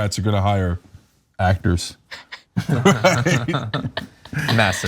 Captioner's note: laugh